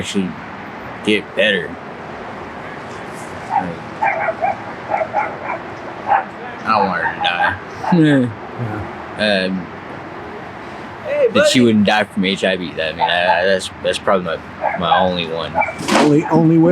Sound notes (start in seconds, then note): 4.0 dog barks